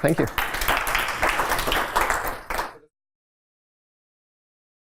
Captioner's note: applause